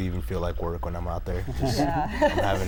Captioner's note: laughter